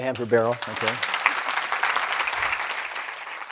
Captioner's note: applause